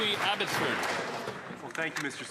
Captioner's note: some Applause